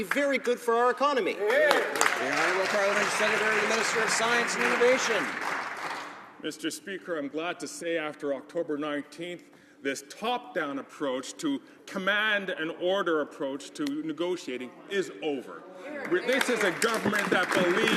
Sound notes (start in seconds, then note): 4.7 some Applause